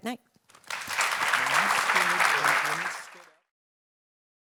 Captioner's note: audience applauds